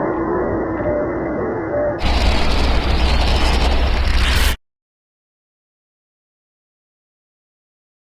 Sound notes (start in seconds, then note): 2.0 loud scratchy sounds